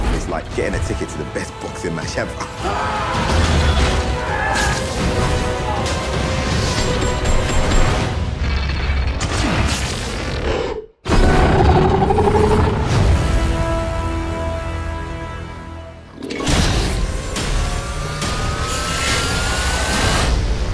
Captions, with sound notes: It's like getting a ticket to the best boxing match ever. (dramatic music) (roaring) (dramatic music)